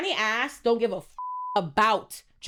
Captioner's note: beep